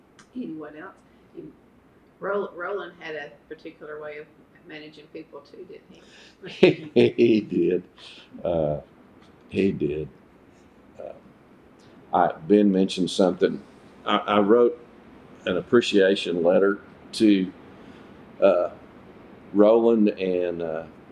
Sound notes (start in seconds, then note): 6.2 laughs